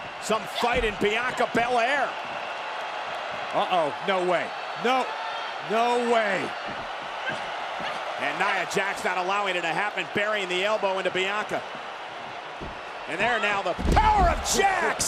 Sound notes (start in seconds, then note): 7.0 crowd jeers